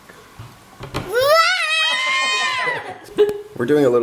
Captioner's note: girl roars; laughing